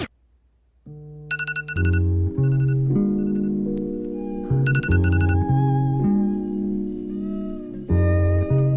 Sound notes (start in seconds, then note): 1.3 phone vibrates and alarm rings